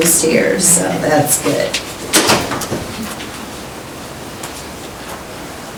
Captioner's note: door closes loudly